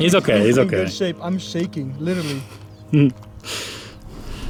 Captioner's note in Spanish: Risas